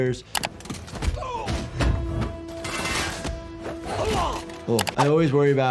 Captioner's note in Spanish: música dramática; Guardias gimiendo